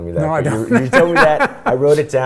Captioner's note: laughs loudly